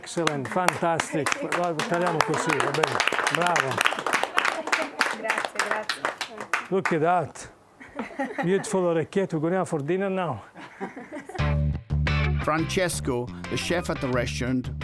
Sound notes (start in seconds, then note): 2.3 clapping; 10.5 all laughing; 11.4 upbeat funky music